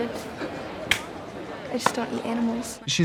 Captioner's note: claps hands